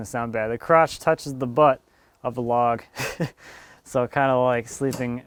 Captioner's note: laughs